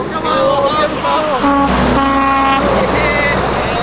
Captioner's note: truck honking